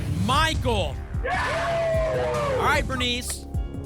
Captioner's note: cheering